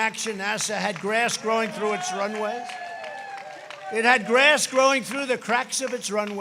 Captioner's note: applause